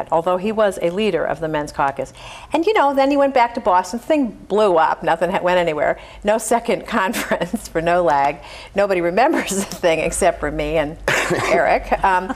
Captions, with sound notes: although he was a leader of the men's caucus. And then he went back to Boston. The thing blew up, nothing went anywhere, no second conference (laughs) for NOLAG. Nobody remembers the thing, except for me and Eric,